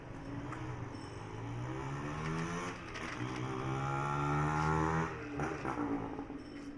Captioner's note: Vrombissement d'une moto